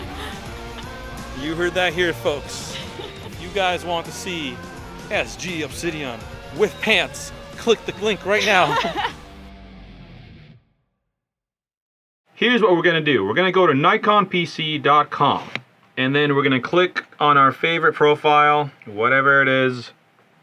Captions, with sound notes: you heard that here folks if you guys want to see SG obsidian with pants click the clink right now (laughs in gothic) here's what we're gonna do we're gonna go to nikonpc.com and then we're gonna click on our favorite profile whatever it is